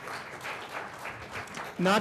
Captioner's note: applause